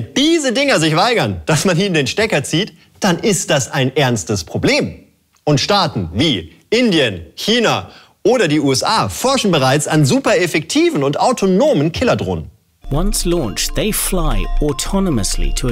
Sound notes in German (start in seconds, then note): 12.7 englisch